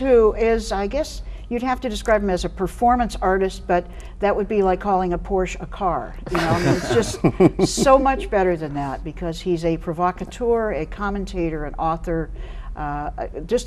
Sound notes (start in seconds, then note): 6.2 all laughing